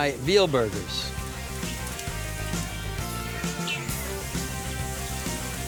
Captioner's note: sizzling